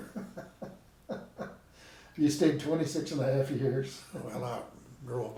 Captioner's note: laughing